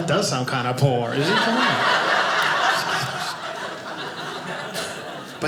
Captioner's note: audience laughing